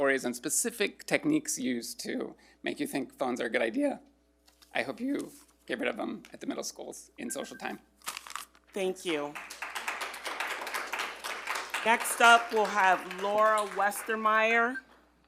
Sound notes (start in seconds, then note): 7.2 timer beeping; 9.0 all applauding